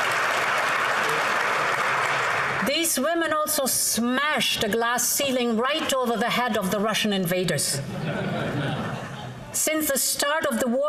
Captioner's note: applause